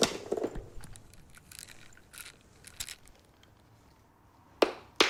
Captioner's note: pills rattle